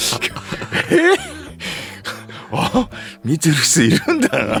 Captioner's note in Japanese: 笑い